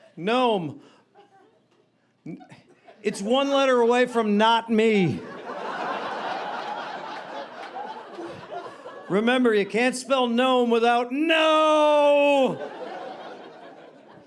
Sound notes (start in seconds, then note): 5.1 audience laughing